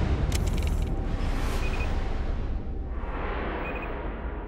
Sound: beeping

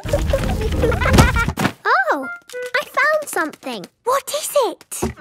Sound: thuds

